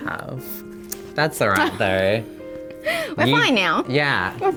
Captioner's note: laughing